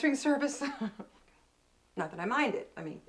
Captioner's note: chuckles